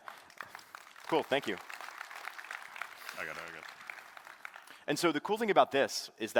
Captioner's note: applause